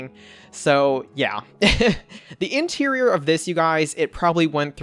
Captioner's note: laughs